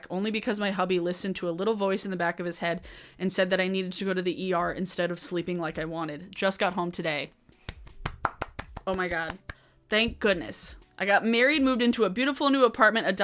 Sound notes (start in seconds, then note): 7.6 claps